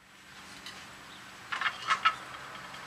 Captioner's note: clattering